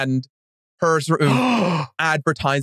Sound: gasps

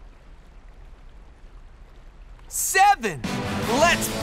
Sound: none

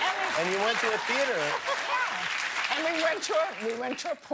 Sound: laughter

